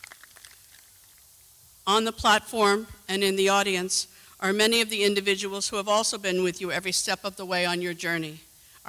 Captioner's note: applause